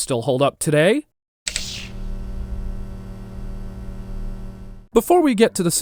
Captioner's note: electric sounds